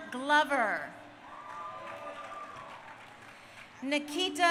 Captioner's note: crowd cheering